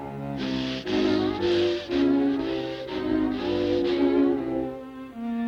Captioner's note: tense music; farmer panting